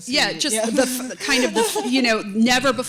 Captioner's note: laughter